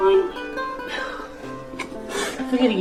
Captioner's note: deep sighing